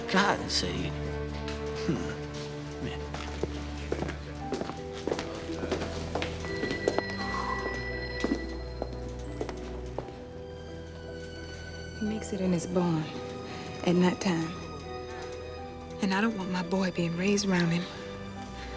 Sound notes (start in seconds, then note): 6.2 telephones ringing in station; 9.5 dramatic music